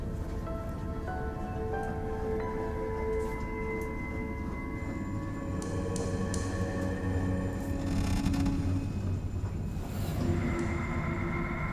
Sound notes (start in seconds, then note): 0.2 eerie music; 7.8 creaking